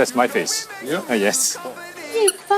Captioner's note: haha